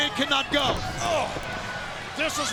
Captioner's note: body thudding